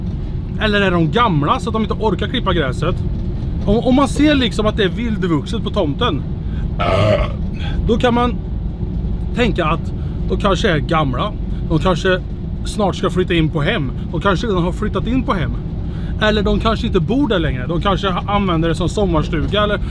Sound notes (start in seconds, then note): 6.8 burp